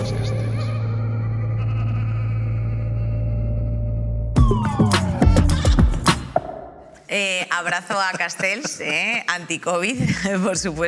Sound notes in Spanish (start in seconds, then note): 0.0 Risas aterradoras